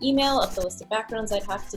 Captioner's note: pencil sketching